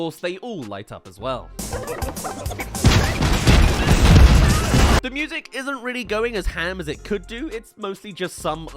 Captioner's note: throws* *Explodes* *Screams